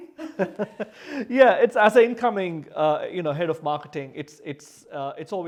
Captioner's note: laughs